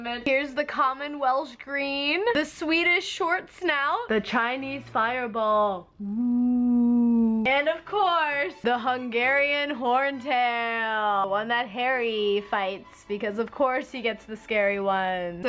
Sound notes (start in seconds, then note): 6.0 hums